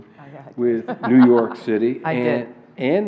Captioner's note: laughs